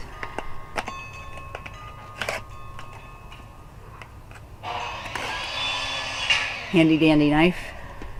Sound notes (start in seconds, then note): 0.6 opening box, sound of skill saw